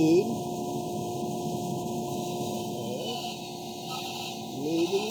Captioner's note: saw squeaking